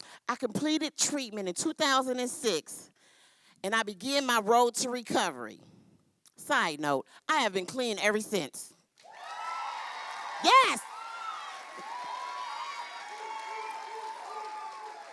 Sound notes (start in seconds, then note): 9.0 cheering; 11.0 cheering continues